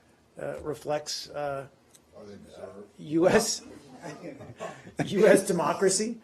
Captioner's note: laughter